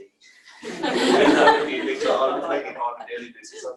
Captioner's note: laughter